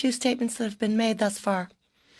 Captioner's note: speaking French